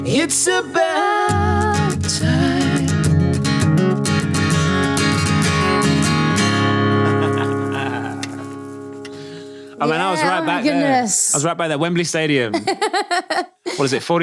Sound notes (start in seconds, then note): 3.3 guitar playing; 7.0 laughing; 8.3 bracelet jingling; 12.5 laughing